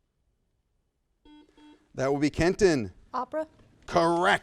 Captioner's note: buzzer sounds